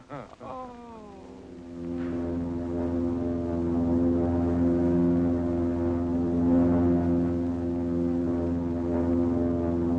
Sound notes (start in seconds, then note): 0.0 chuckles; 1.0 plane rumbling